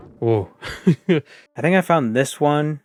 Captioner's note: giggle